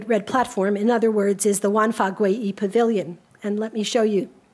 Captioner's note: speaks a foreign language